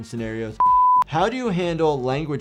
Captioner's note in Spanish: pitido en pantalla